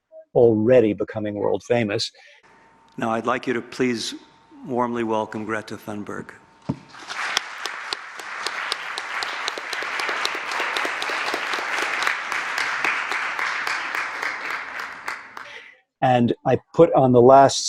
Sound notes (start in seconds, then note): 6.8 clapping